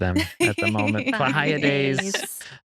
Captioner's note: laughing